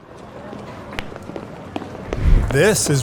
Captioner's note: footsteps pattering